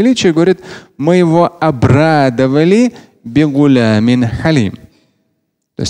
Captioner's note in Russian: говорит на арабском